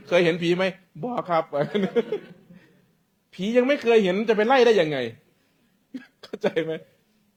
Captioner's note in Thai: เสียงหัวเราะ